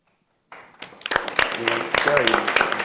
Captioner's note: audience applauds